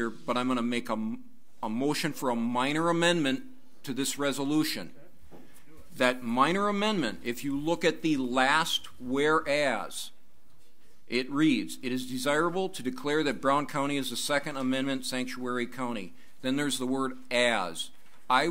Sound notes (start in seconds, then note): none